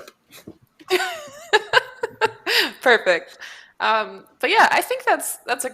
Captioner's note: laughs